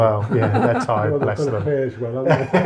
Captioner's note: laughter